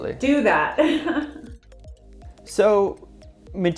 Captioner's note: laughing